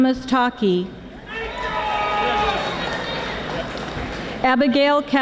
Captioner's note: audience screaming